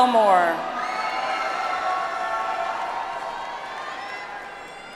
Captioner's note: audience applauds